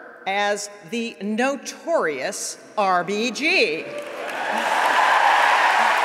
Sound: applause

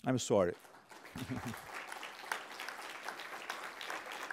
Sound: applause

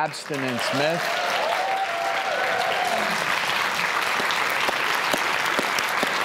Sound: audience cheering and clapping

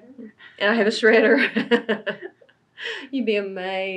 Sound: laughs

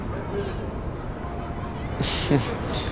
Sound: ríe

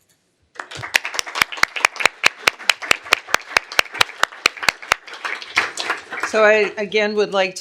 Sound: applause

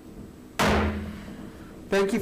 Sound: gavel bangs

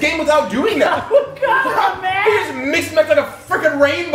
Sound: laugh

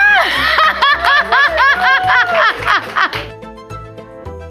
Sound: laughs

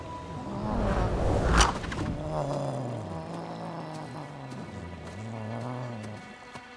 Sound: grunting

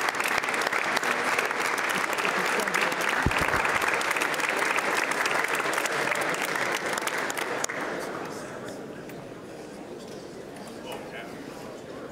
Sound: applause

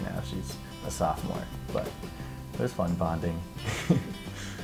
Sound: laughs

